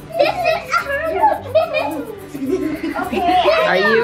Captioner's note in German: Kinder kichern aufgeregt